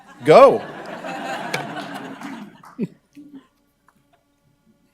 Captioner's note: audience laughing